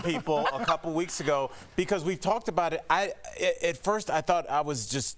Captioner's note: laughter